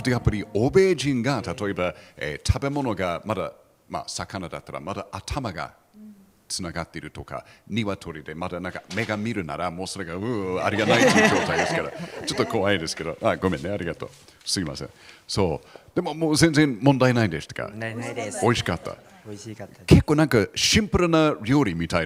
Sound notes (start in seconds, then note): 10.4 laughs